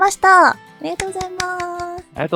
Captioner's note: applause